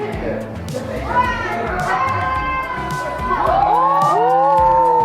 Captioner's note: woman calls out; guests oohing